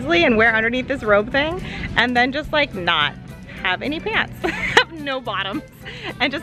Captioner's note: laughs